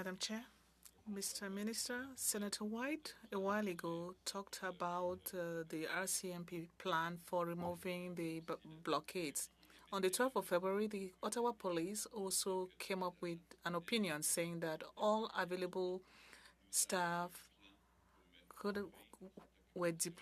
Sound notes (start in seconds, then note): 3.4 speaking French